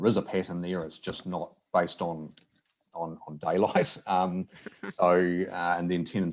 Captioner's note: laughs